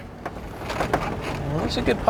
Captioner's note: vehicle rattling